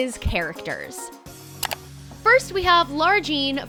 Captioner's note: clicking